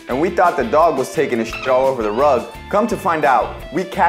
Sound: dolphin chirping

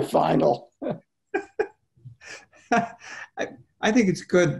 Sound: laughing

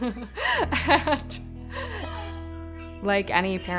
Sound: laughs

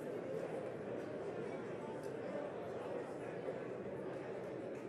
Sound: none

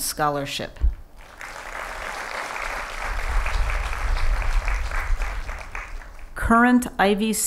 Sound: applause

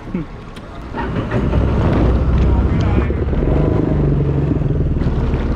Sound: boat engine revving

